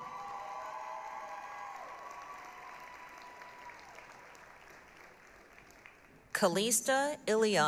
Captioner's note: applause, cheering